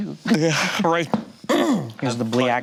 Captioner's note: laughs